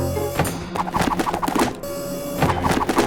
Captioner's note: chair whirs